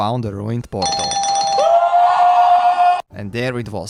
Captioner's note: screams in Japanese